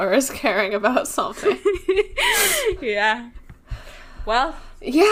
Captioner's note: laughs